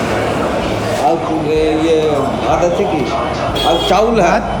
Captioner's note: asking in begali